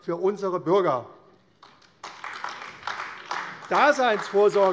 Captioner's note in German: Beifall AfD